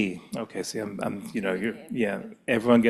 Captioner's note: speaks faintly